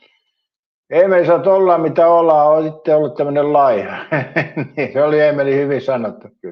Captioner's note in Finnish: naurua